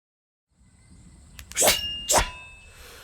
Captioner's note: blades slashing